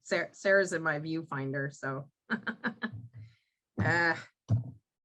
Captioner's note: chuckles